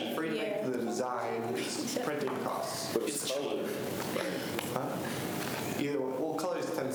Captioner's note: students chatter